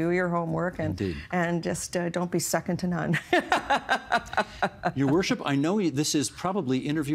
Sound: laughing

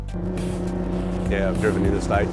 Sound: engine revving

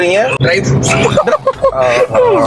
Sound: laughs

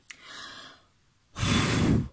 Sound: inhaling; blow

